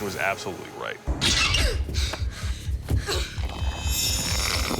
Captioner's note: metallic screech